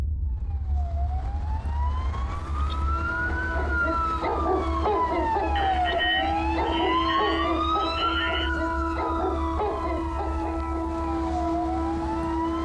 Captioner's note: rumbling; emergency sirens blaring, dogs barking; emergency sirens continue